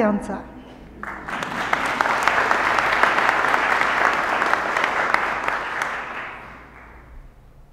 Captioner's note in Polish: oklaski